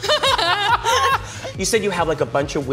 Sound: laughing

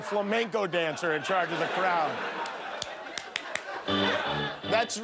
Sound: laughter

